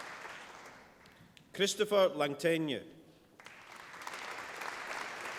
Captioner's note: applause